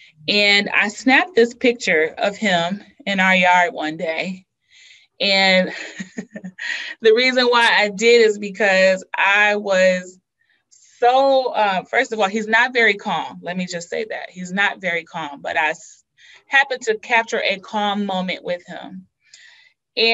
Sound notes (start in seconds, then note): 5.6 laughs